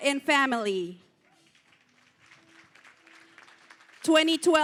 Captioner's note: applause